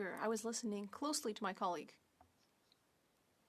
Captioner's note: speaking French